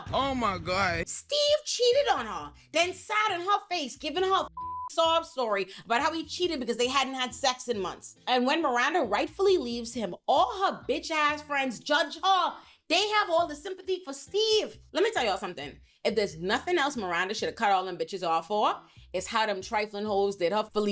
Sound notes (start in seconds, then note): 4.5 beep